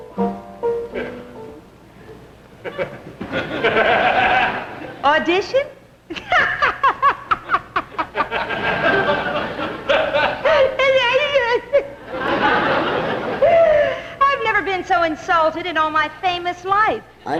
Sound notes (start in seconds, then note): 0.0 slow piano music; 2.6 audience laughs; 6.0 laughs; 6.8 audience laughs; 10.9 mumbles and laughs